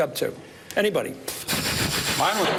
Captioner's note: exhales